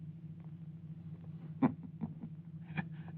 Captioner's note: laughs